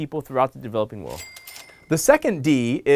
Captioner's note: cash register clinks